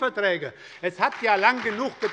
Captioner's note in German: Beifall bei der SPD